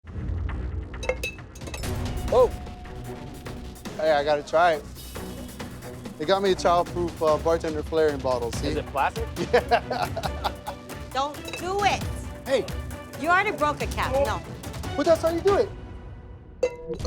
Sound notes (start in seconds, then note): 1.0 metal clangs; 9.3 laughs heartily; 16.6 metal clangs